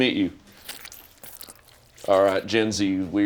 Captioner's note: hands squelching